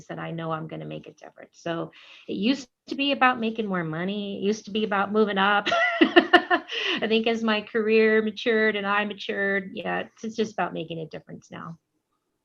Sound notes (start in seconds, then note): 5.6 laughter